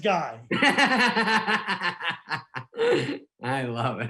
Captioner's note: laughing